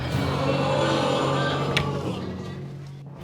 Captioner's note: audience sighs